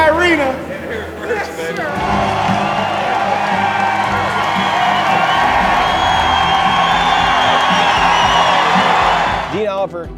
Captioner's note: cheering